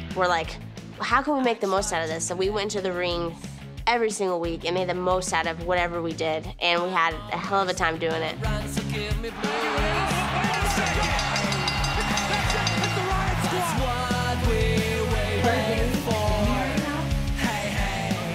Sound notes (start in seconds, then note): 9.3 crowd cheering; 10.4 bell ringing